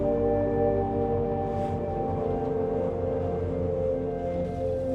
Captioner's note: calm Music; waves softly lap